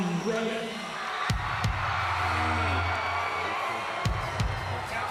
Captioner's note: crowd cheers